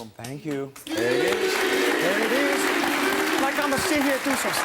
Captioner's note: cheering